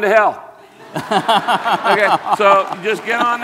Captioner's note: all laugh